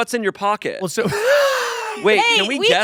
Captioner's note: laughs